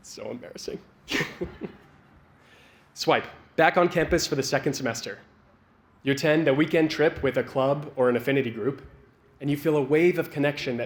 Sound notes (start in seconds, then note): 1.1 laughs